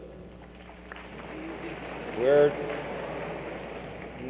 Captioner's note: light applause and laughter